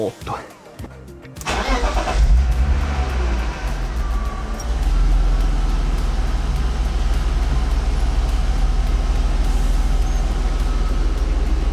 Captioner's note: car noises